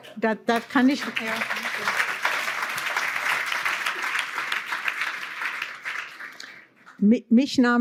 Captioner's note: applause